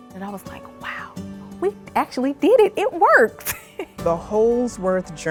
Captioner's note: chuckles